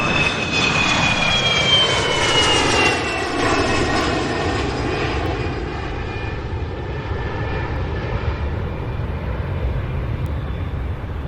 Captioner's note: plane lands